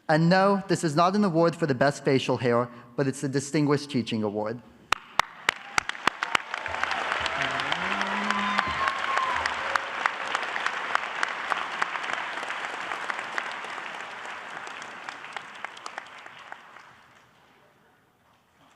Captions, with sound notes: And no, this is not an award for the best facial hair, but it's the Distinguished Teaching Award. (applause)